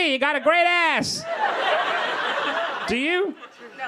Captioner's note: crowd laughing